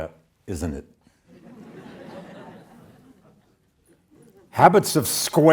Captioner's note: audience laughs